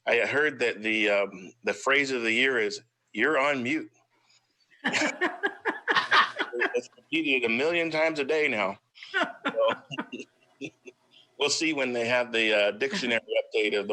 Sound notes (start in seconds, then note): 4.8 laughs